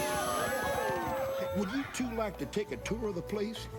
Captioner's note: cheering